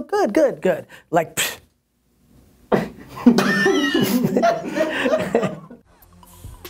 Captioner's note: laughing